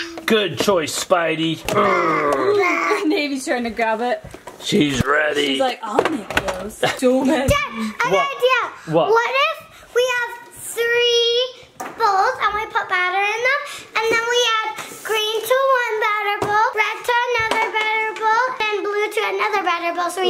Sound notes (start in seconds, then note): 1.7 babbles; 1.9 grunts